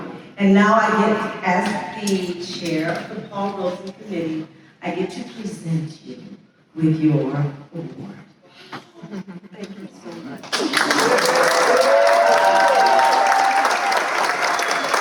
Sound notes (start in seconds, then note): 10.4 cheers and applause